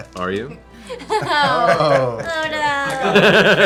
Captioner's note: laughter